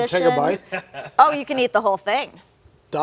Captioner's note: male guest laughs